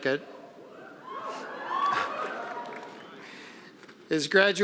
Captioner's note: cheering